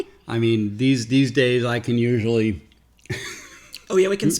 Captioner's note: laughs